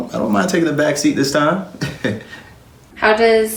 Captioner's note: giggles